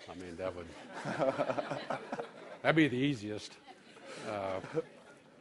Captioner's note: laughter